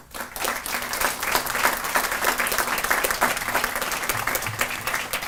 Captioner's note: audience applauding